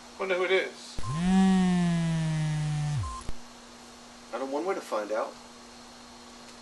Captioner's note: vibrates again